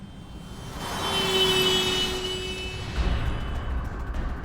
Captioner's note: car horn blaring